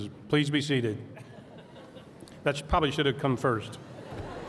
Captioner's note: laughter